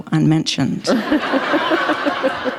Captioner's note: laughter